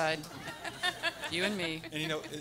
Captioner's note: everyone laughing